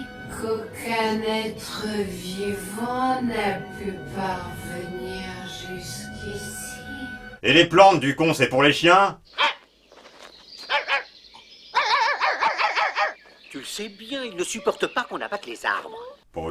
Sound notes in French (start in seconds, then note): 11.7 Idéfix pleure